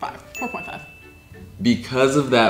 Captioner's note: bell ringing